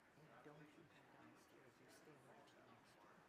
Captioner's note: faintly speaking